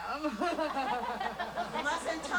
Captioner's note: chuckles